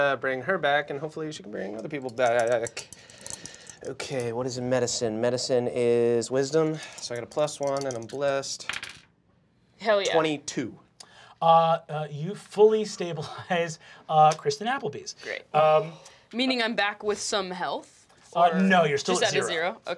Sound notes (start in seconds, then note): 8.6 dice clacking